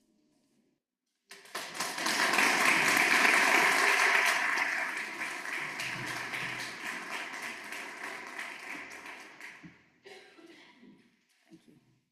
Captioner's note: applause